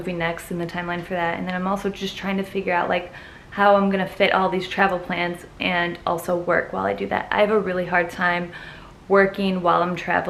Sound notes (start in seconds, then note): none